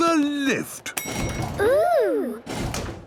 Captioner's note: lift pings